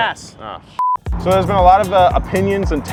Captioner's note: beep